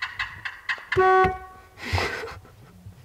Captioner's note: car horn beeps; laughing